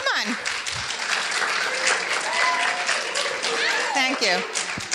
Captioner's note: audience cheering and applauding